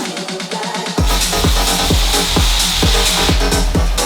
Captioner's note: steam hissing